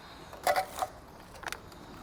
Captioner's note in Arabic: علب معدنية تصدر صوتًا